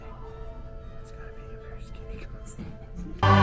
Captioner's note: chortles